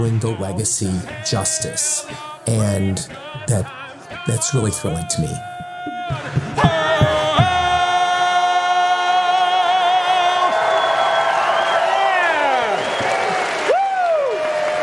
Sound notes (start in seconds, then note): 11.0 audience cheering